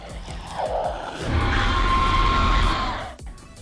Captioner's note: screaming